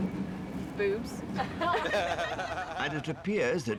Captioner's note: everyone laughing